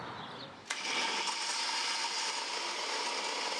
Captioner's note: whirring